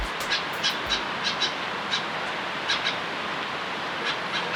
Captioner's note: birds